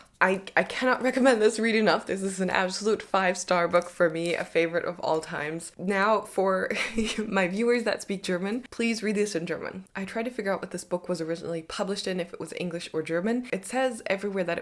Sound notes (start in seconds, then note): 6.7 chuckles